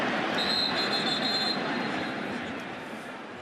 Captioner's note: whistle